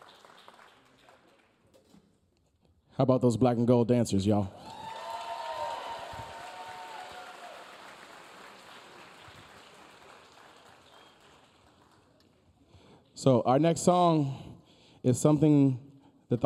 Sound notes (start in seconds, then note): 6.3 audience applauding; 6.3 audience cheering